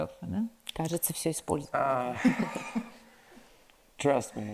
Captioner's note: Natasha speaks in foreign language